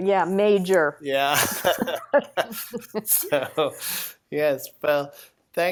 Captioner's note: both laugh